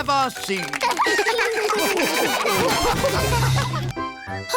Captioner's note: all laugh